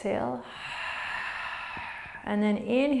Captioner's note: exhaling